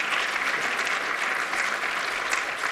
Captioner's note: applause